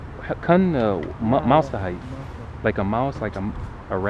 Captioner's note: somali